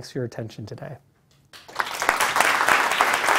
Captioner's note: applause